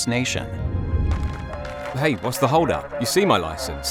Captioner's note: police radio chatter